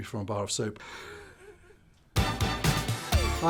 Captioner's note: laughs